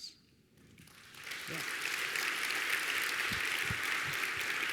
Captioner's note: audience applauding